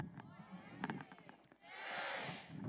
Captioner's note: crowd